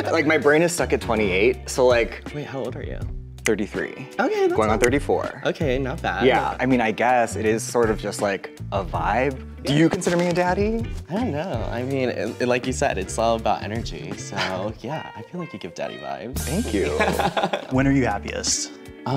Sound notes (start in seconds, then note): 3.6 snaps; 16.8 laughs